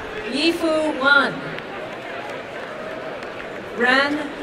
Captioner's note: applause and cheering